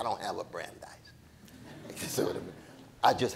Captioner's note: audience laughing